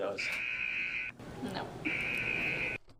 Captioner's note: buzzer